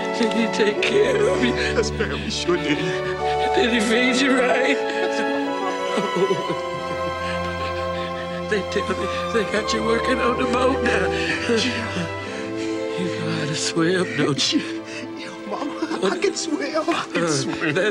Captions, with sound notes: - Did he take care of you? - Yes, ma'am he sure did? - Did he feed you right? (heavy sobbing) (bright music) They got you working on the boat now. You know how to swim, don't you? - Yeah, mama, I can swim I can swim.